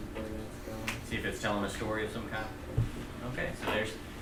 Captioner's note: voiceover